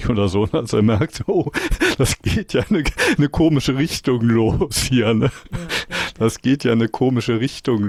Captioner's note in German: gelächter